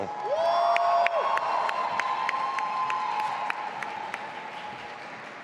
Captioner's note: audience applauding and cheering